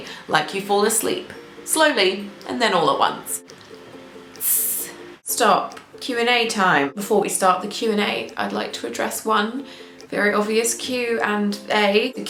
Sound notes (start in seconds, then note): 4.4 makes sizzling sound